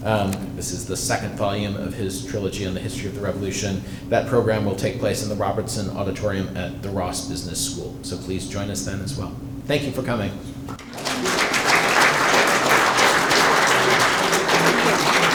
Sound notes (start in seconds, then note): 10.7 audience clapping